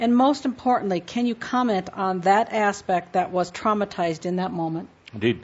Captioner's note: none